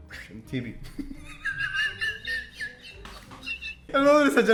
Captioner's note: laughs